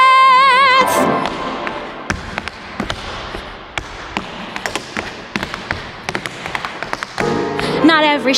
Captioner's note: tapping